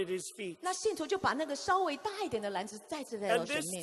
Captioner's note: interpreter speaking in foreign language